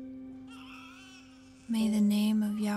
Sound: baby cries

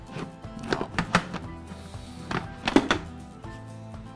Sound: annoyed groaning

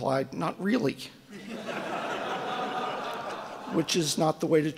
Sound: audience laughing

